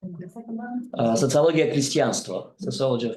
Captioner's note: speaks in foreign language